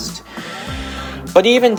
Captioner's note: inhaling